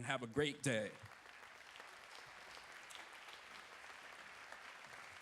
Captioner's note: applause